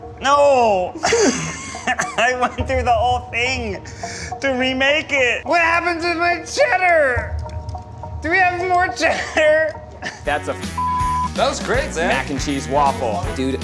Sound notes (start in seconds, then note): 10.7 beep